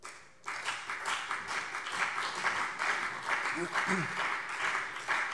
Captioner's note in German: Beifall BÜNDNIS 90/DIE GRÜNEN und CDU